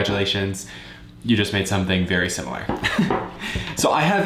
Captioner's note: laughs